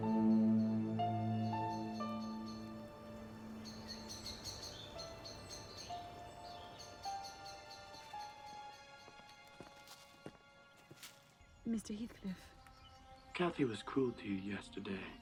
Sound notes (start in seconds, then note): 0.2 soft piano music; 3.9 birds singing